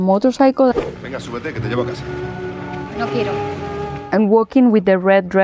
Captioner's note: both speak Spanish